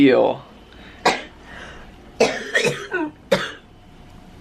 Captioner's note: coughing